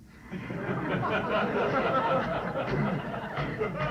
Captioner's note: laughter